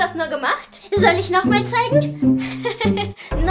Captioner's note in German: Kichern